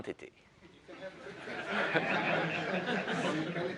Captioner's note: audience chuckling